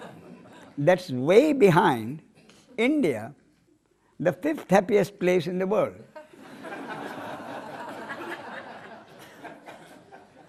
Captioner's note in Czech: smích; smích